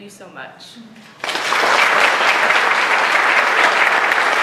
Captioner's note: applause